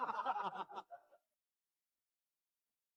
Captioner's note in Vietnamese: tiếng cười